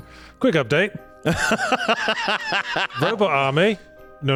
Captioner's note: laughing